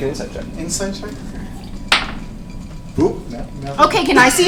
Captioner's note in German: lacht